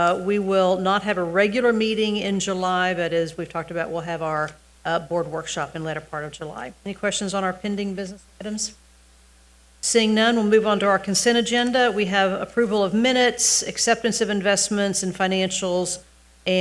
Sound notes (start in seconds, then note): none